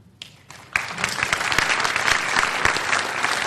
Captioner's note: applause